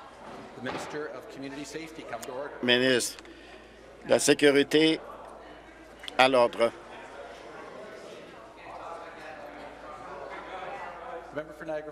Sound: conversation din

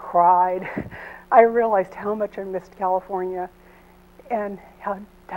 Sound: chuckles

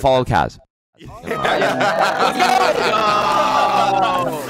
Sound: laughs

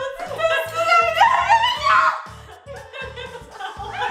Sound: screaming

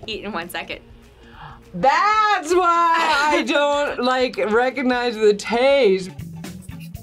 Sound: gasps

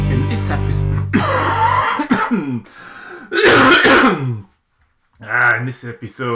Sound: coughing

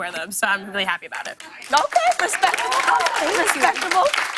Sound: cheers and applause

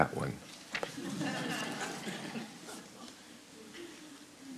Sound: audience laughs

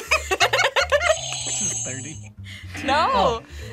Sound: both laugh; buzzer rings; buzzer

